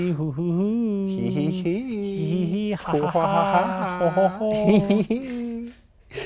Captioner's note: suspicious laughing noises